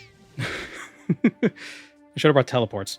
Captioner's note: laughing